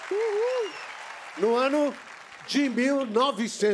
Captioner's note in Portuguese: aplausos